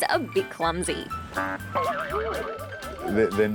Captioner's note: boing!